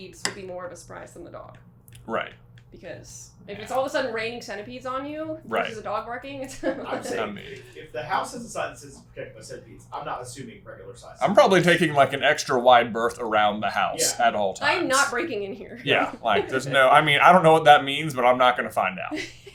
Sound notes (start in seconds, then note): 6.5 laughs